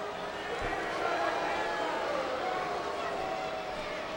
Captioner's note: crowd booing